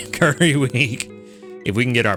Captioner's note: laughs